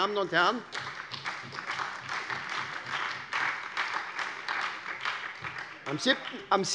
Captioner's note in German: Beifall bei der SPD, der LINKEN und der FDP